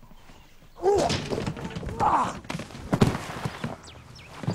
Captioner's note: Grunting